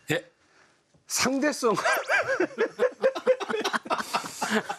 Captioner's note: laughter erupting without resistance